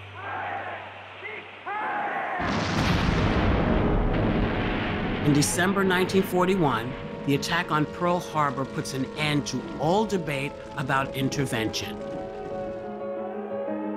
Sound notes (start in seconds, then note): 0.1 crowd chanting; 2.8 explosion booming